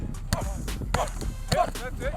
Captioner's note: grunting